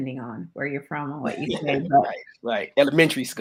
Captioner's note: laughs